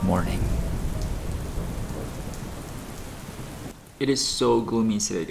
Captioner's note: rain falling